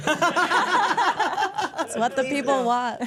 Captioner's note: all laughs